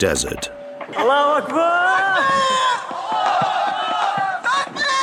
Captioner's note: Arabic spoken audio